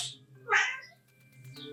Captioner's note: meow